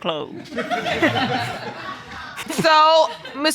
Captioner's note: audience laughing